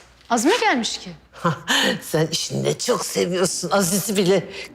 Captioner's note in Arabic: يضحك